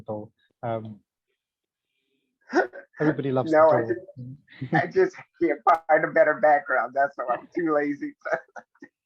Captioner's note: laughing